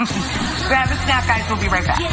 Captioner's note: laughs